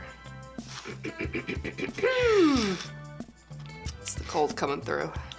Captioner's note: clearing throat